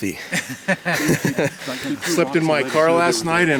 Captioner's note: laughing